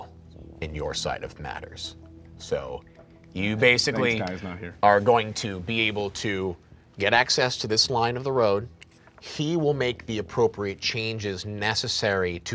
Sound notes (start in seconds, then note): none